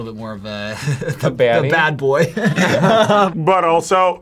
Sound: laughs

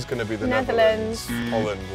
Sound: alarm

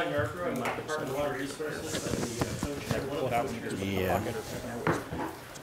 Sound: rustling and mumbling

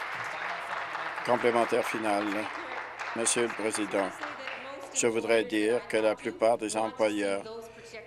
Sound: applause

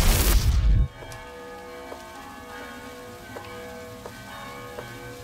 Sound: bells tolling in distance

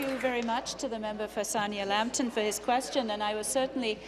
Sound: applause

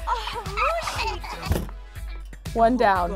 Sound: Tegan giggling

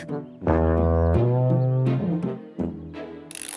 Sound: horn blowing

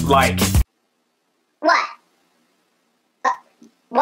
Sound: speaking in a high pitch

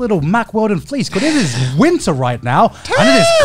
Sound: inhales sharply

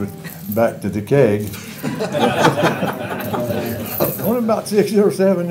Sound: laughter

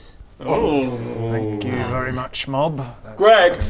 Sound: ewww of horror

